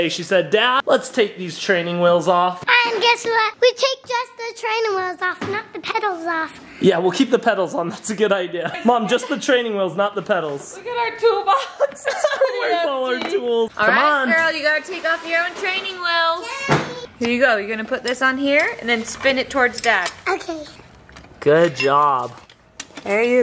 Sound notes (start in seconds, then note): 11.5 laughing